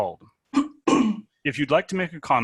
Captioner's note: coughing